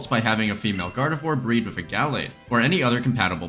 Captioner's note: none